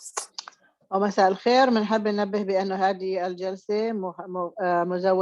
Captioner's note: speaking Arabic